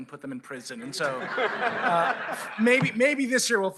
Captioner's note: laughter